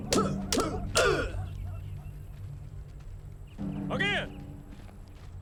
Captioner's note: soldiers grunting; sticks clacking